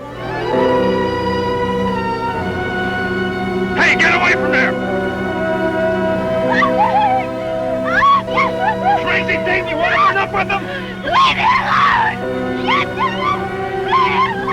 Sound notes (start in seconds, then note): 0.2 upbeat music; 6.0 Sue wailing